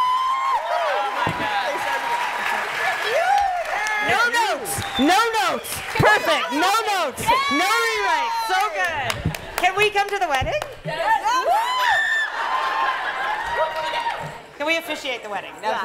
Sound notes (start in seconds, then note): 0.1 cheering; 11.1 screams with glee